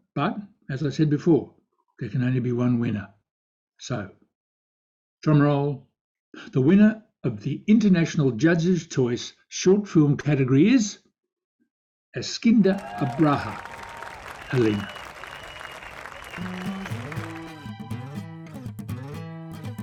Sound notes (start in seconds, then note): 15.2 crowd applauding; 16.3 upbeat music